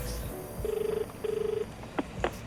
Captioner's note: jazzy music; outgoing dial tone; receiver clicks